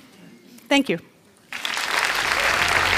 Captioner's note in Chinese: 掌聲